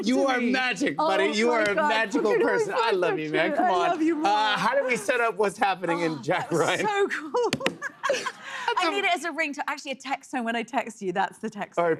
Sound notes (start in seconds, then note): 7.7 laughs